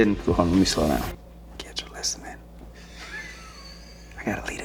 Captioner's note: producer laughs